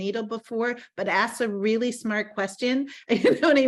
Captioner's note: laughing